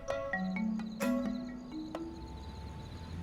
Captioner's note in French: gazouillis d'insectes